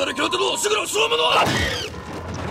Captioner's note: crash???